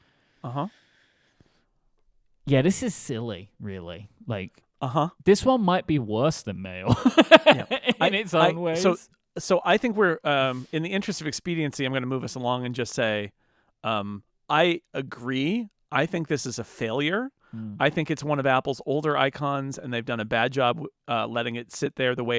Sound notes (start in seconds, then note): 6.9 laughing